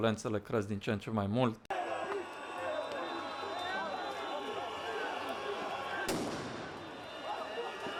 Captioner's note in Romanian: Aplauze